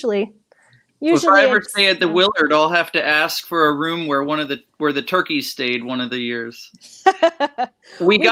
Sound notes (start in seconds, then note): 6.8 laughs